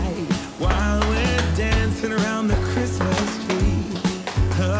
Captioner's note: hands tapping